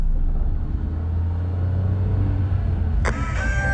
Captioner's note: engine rumbling; car radio hissing